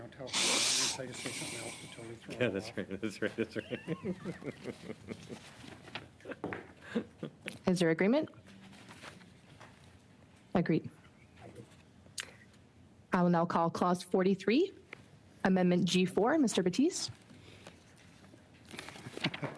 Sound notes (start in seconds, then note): 6.8 laughter